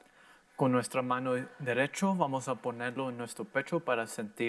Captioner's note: in foreign language